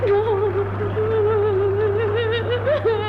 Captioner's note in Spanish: llanto